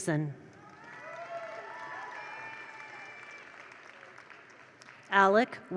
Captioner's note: attendees cheer; attendees applaud